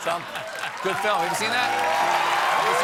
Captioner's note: laughter